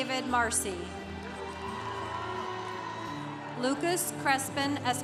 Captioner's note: congregation cheering